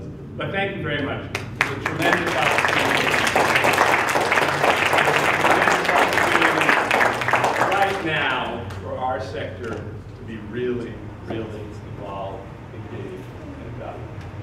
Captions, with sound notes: But thank you very much. This is a tremendous opportunity... (APPLAUSE) ..a tremendous opportunity right now for our sector to be really, really involved, engaged and valuable.